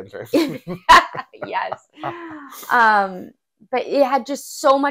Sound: laugh

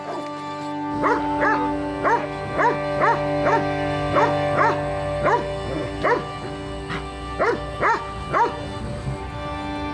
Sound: dog barking

